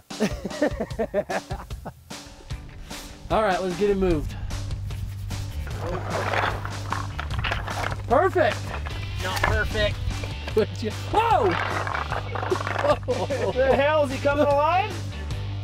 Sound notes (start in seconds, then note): 0.1 upbeat Rock Music Starts; 6.0 rocks Sliding